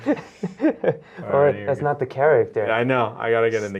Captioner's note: laughs